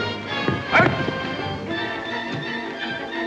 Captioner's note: suspenseful music; grunts; suspenseful music